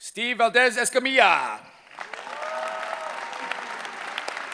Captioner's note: cheering